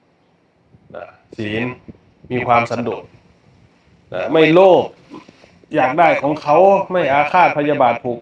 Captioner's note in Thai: เสียงสูดหายใจ